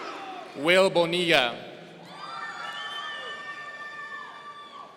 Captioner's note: audience cheering; audience cheering